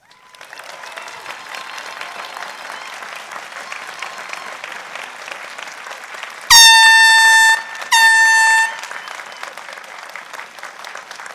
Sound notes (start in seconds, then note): 0.2 applause; 6.5 horn beeping